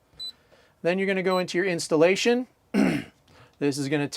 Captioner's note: clears throat